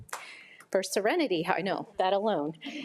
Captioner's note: audience member claps